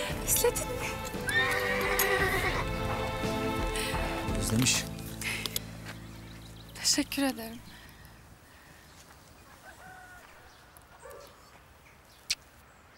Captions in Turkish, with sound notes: Özledin mi? [At kişnemesi] Özlemiş. Teşekkür ederim.